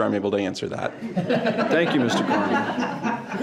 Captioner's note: all laughing